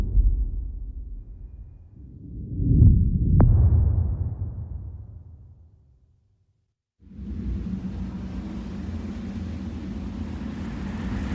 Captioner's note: dramatic sound